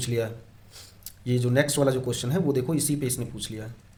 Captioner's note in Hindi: नाक से की जाने वाली आवाज़